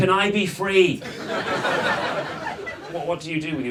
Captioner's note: audience laughs